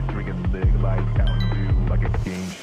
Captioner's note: notification Sound